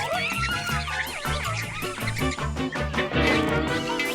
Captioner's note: grunts